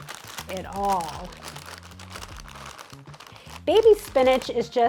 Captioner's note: bag crackling